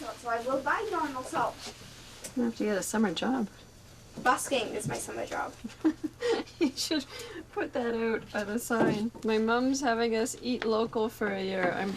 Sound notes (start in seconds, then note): 5.6 chuckles